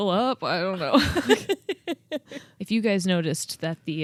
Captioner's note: both laughing